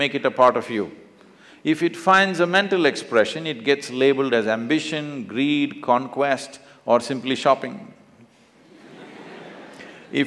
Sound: laughter

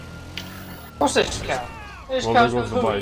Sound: mockingly

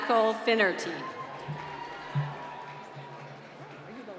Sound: applause

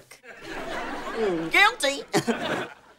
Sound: chuckles

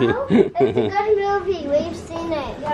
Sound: laughing

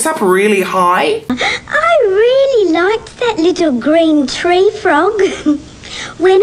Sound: giggles

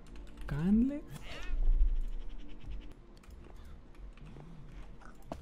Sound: in English

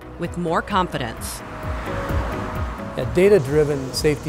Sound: highway construction noise

